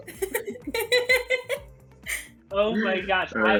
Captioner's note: laughing